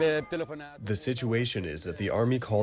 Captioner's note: through translator